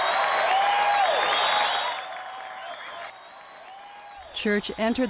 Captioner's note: cheering